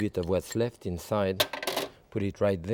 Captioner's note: bowl clanging